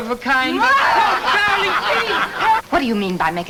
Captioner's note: angry wife shouts